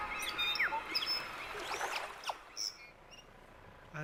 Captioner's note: birds chirping